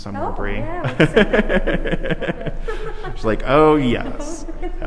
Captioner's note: both people laughing